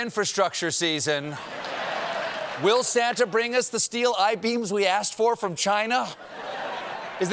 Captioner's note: laughter